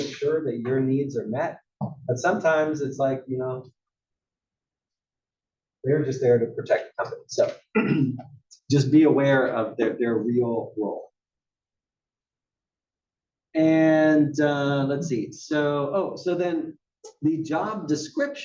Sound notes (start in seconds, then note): 7.7 cough